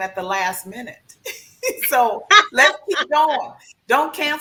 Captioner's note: laughs